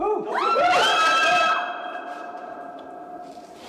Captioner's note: screaming